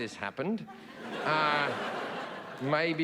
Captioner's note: audience laughing